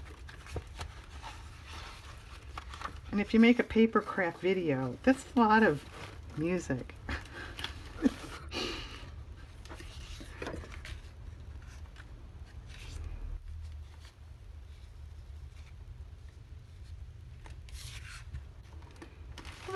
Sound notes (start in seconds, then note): 12.3 laughs